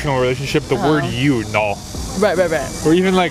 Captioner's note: speaking in Korean